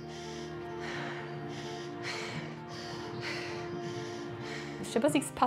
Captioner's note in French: respirations profondes